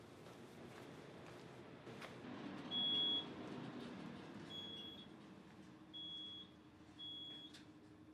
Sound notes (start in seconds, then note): 2.8 elevator beeping